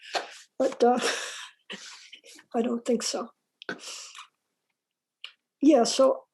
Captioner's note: laughs